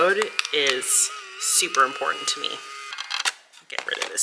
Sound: printer whirring

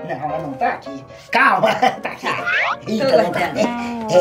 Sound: nervous laughter

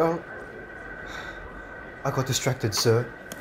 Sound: Henry sighs

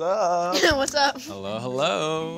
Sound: chuckles

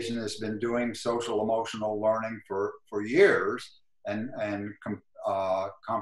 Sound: glitch

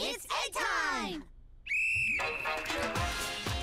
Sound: whistle blowing

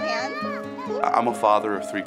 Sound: girl yelling

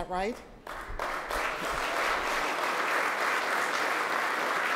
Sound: audience applauding

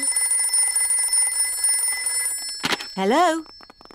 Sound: phone rings

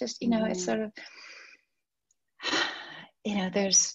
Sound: she sighs

